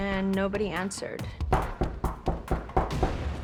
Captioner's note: knocking on door